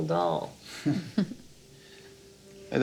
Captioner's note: laughing